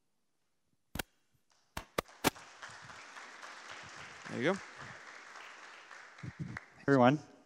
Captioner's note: applause